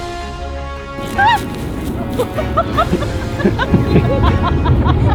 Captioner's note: laughing